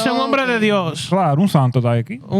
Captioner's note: speaking Spanish